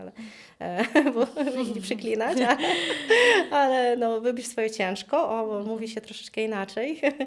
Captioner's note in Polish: śmiech; śmiech